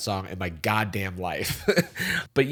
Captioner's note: chuckles